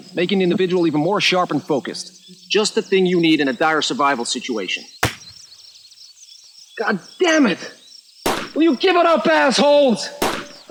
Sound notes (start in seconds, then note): 5.0 gun fire crack; 8.2 cracking gunfire continues